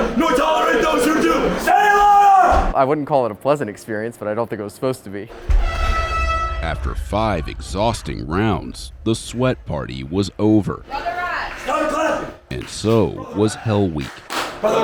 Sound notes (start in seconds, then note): 5.4 horn blows